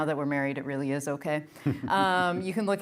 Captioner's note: chuckles